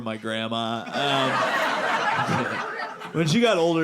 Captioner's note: audience laughing